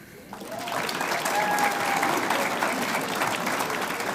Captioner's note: audience applauds